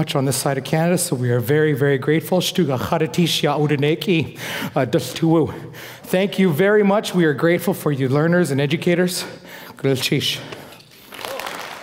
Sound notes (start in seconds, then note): 2.3 foreign speaking; 9.5 foreign speaking